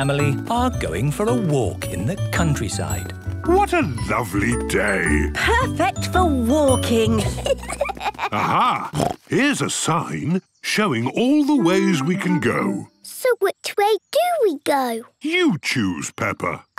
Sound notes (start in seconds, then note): 7.1 children giggling; 8.4 snorts